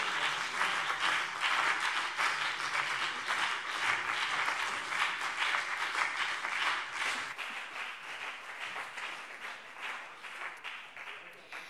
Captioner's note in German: Lebhafter Beifall BÜNDNIS 90/DIE GRÜNEN - Beifall CDU